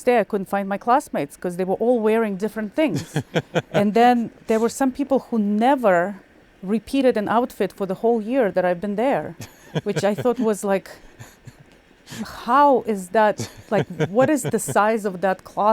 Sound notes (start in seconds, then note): 2.9 laughing; 9.4 laughing; 13.4 laughing